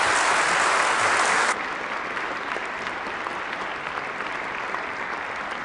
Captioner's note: applause